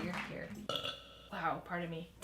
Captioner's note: burps